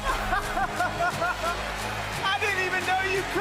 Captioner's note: laughs